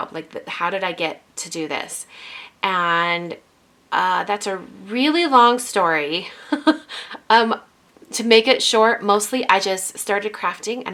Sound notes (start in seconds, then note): 6.3 laughs